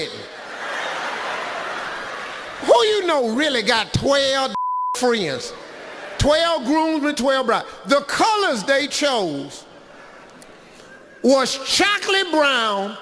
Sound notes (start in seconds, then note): 0.1 audience laughs; 4.5 beeping